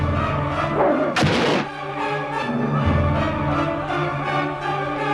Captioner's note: sword stabs